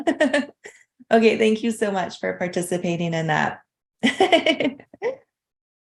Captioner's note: laughs